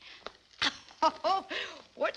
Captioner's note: chuckles